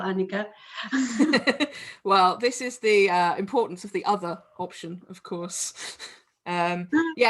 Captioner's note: laughter